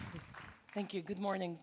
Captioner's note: applause